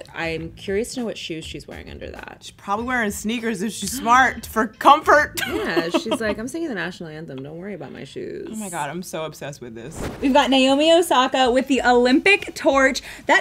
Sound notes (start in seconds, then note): 5.4 laughs